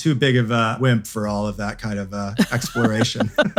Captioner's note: laughs